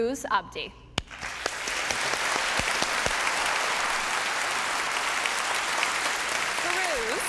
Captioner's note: applause